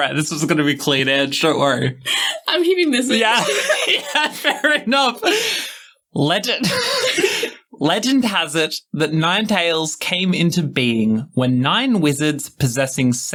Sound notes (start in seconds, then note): 3.0 laughing